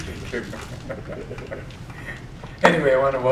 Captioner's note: laughing